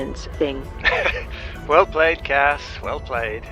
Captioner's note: laughs